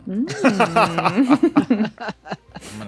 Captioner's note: others laughing